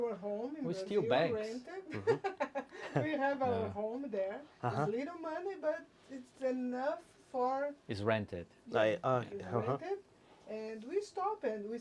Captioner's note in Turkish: Gülüşmeler